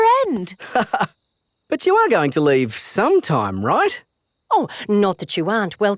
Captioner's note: laughs